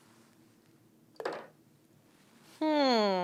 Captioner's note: spoon clunks